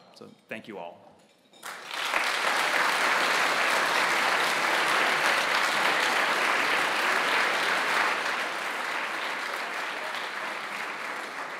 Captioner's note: applause